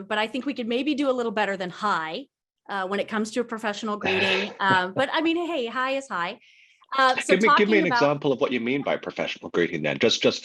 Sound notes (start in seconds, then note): 7.2 laughs